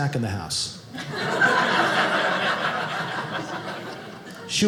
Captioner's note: audience laughing